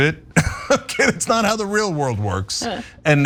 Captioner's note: laugh